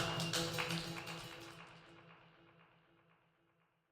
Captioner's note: claps and whistles